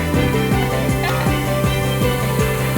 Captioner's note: woman chuckles